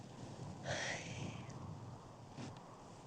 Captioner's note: sighs